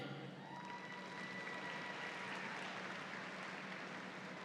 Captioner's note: audience applauds